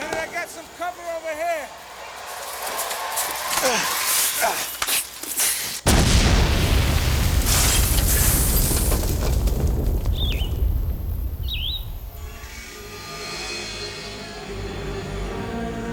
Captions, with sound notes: - Lieutenant, I got some cover over here. (tense music) (booming) (tense eerie music)